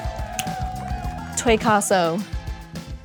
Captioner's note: crowd cheering; fingers snapping